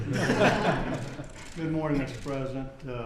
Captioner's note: laughter